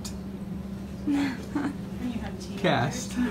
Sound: laughing

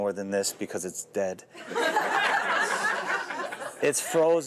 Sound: laughter

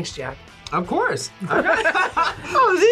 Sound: both laugh

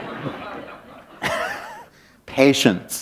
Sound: laughter

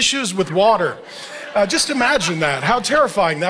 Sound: congregation laughing

